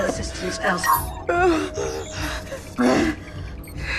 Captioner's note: moaning